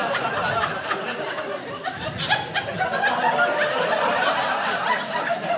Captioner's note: audience laughing